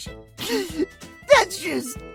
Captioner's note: holding back tears; sniffle; crying